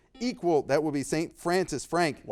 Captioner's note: buzzer beeping